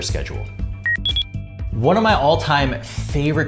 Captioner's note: electronic beeping